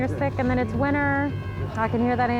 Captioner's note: siren approaching